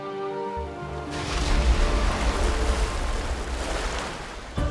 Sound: waves roaring

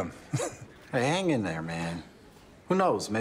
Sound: chuckles

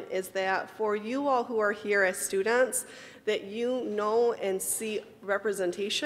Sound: none

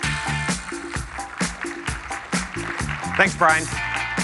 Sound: applause

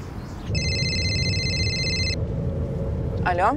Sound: phone rings

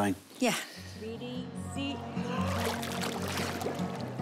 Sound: breathes deeply

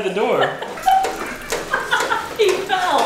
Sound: laughter

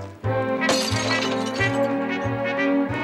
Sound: glass smashes

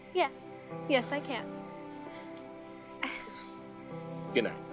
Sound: laughs

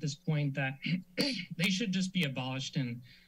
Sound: clears throat

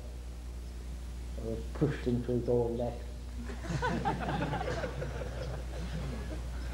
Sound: laughter

